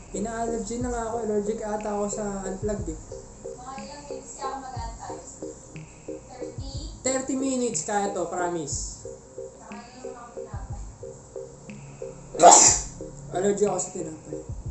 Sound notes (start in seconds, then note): 12.4 normal sneeze